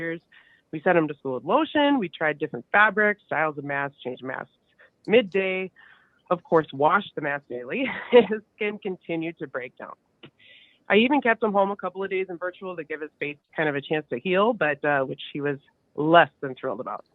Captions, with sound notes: around his mouth, nose, chin, on the back of his ears. We sent him to school with lotion, we tried different fabrics, styles of mask changed masks. Midday, of course, wash the mask daily (chuckles), his skin continued to break down. I even kept him home a couple of days in virtual to give his face kind of a chance to heal,